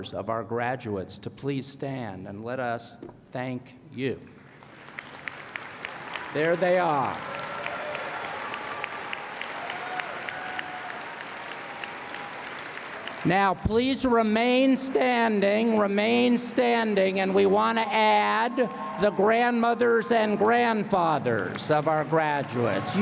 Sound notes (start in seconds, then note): 6.3 applause